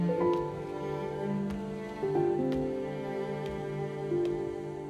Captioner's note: footsteps